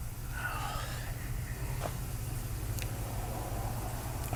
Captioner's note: Helden sighs